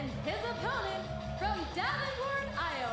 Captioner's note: crowd cheering